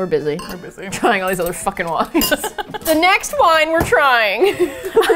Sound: ranch Dressing bottle thuds on table; both laugh

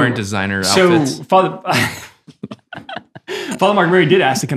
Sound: chuckles happily

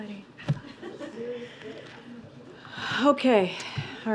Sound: laughter

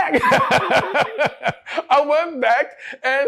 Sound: laughs

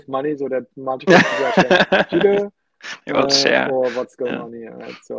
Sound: laughs

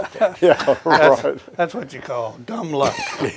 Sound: chuckles

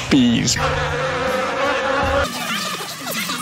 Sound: bee noises

